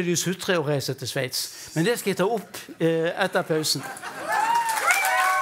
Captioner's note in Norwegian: applaus